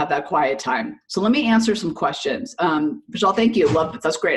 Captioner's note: murmurs